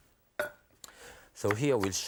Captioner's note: bowl clinks